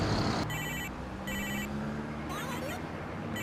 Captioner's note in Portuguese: som de brinquedo